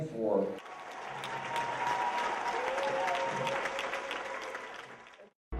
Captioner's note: applause